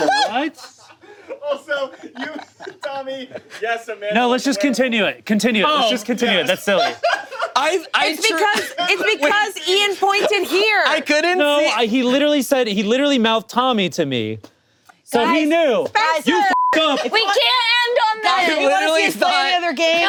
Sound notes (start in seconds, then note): 16.4 beep